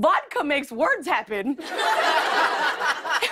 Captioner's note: laughter